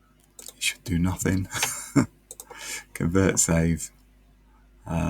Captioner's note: laughs